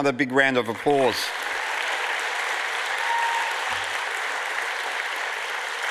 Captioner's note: audience applauds and cheers